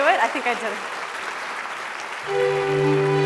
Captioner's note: applause